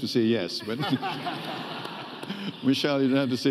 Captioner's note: audience laughing